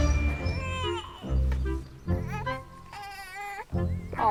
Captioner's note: Betsy whining; baby crying